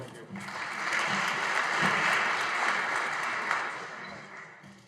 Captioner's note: audience applauding